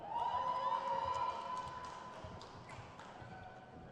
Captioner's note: crowd cheers